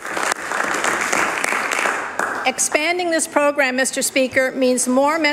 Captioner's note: applause